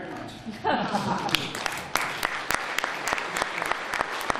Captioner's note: applause